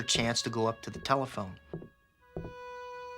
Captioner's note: footsteps thudding; tense music